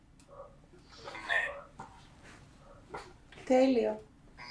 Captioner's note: achmet – artificial male voice